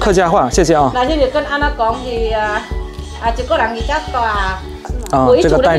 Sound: minnan dialect

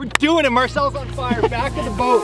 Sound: laughs

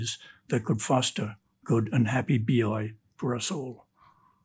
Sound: speaks in Greek

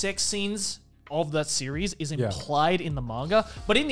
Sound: none

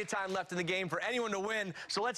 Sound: cheers and applause

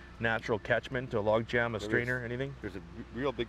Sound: voiceover

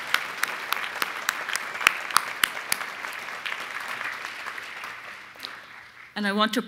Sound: applause

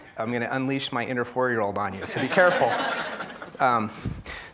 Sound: audience laughing

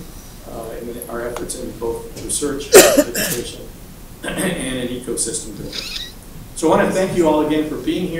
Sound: cough

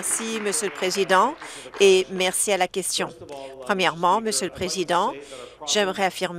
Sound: applause

